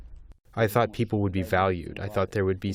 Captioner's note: through translator